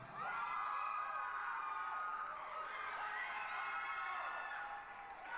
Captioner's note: applause, cheering